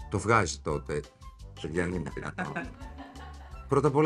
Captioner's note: laughing